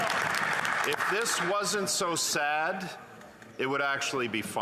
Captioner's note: some Applause